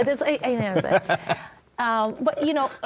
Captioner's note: laughing